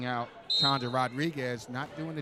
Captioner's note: referee whistling